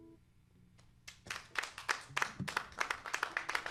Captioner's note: applause